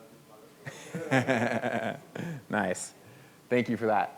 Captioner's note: laughs